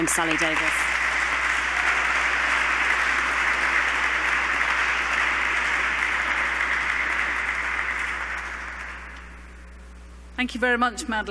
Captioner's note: applause